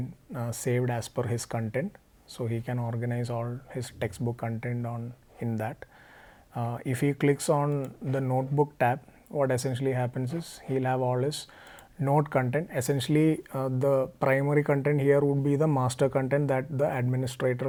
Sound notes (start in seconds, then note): 7.7 click